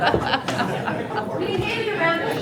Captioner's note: laughter